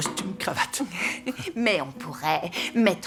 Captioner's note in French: rires